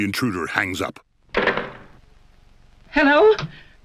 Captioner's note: thunk